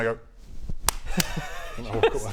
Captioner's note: loud claps